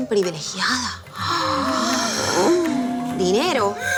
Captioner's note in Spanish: Exclamaciones